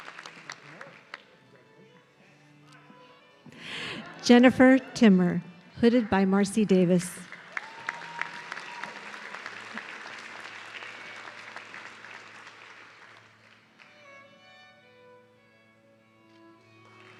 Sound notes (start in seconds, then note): 7.3 audience cheering